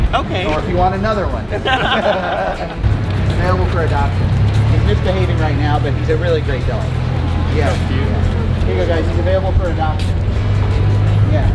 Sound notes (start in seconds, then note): 1.4 laughs